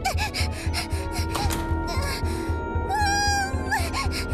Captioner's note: groans, screams through teeth